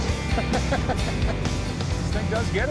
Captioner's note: laughter